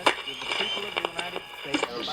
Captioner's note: radio static